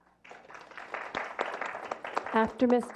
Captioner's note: clapping